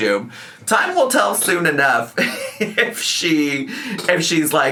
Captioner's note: laughs